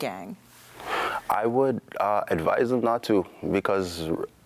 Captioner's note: sighs